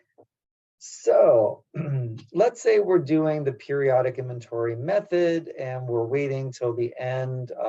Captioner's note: cough